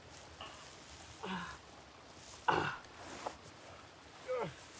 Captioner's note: Arawn groaning